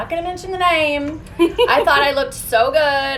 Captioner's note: laughs